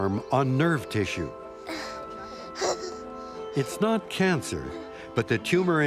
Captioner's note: gasps